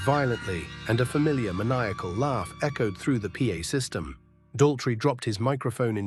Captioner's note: SFX: eerie metallic screech